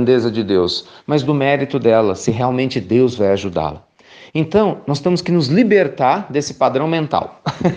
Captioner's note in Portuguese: risos